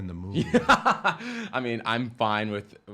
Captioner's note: laughing